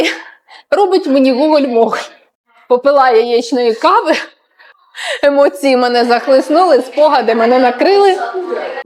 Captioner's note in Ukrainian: сміх